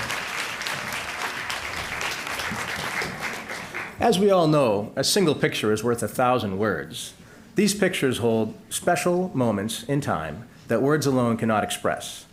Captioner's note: applause